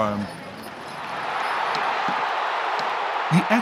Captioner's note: crowd cheering